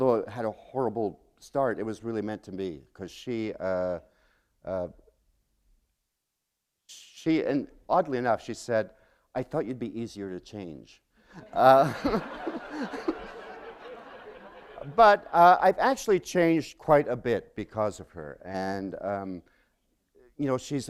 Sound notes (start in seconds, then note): 11.3 laughter